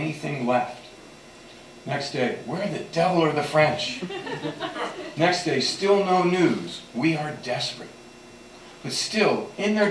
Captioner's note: laughter